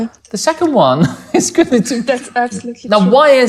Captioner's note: laughs